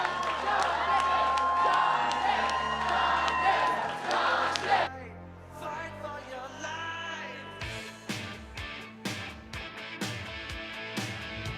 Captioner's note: cheers and applause